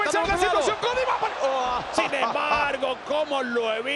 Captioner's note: laugh